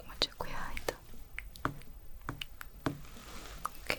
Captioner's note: tapping sounds